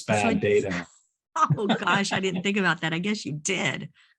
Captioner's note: laughter